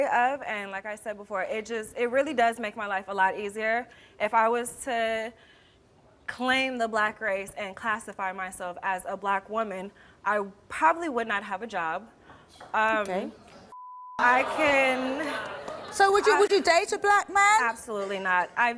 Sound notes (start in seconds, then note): 13.7 beep; 13.9 crowd murmurs